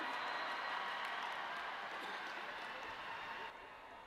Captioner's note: audience cheering